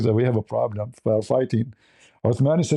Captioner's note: none